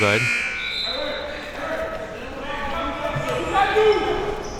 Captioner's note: coaches yelling